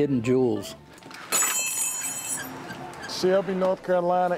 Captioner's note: bells jingle